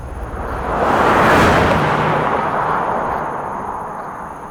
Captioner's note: car whooshing